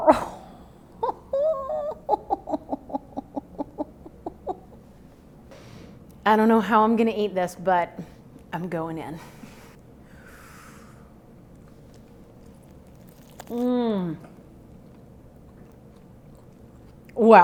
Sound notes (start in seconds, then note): 1.0 laughing; 10.3 exhales; 13.6 moans; 13.6 soft crunching